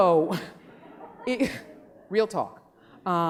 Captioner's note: laughing